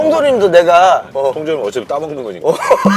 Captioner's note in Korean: 웃음